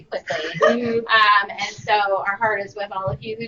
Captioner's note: laughter